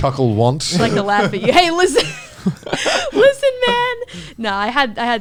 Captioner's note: laughs